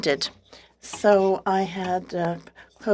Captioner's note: speaking French